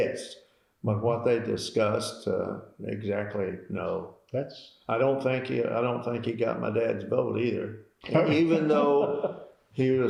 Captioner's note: laughter